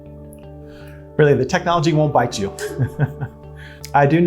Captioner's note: laughter